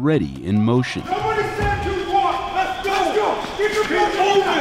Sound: drill sergeants yelling

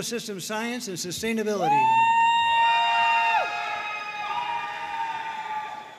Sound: audience cheering and applauding

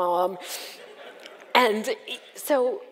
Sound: audience laughs

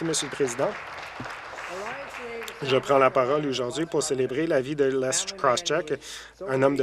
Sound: some Applause

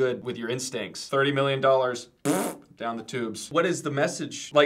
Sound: makes fart noise

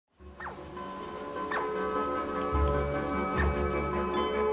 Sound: squirrel squeaking; light music

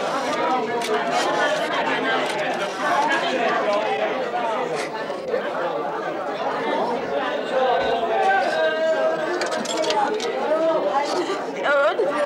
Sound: Sandra cries

